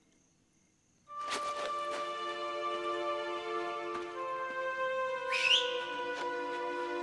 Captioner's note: whistling